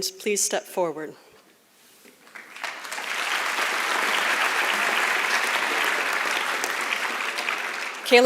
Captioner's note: applause